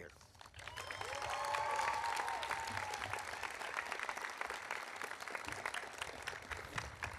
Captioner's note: audience applauding; audience cheering